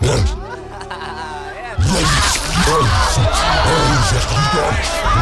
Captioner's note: boy screaming